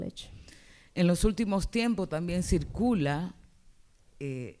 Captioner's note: speaking spanish